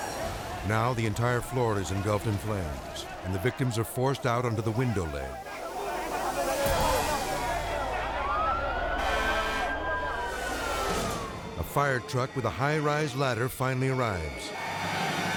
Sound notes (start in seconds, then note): 6.6 siren blaring; 8.8 horn honking